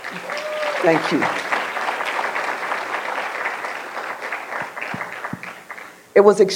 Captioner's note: applause